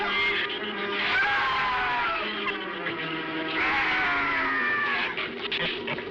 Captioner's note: screaming